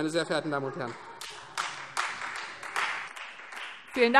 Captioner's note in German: Beifall Freie Demokraten und vereinzelt SPD